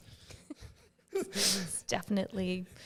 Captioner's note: laughing